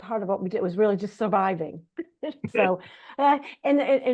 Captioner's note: laugh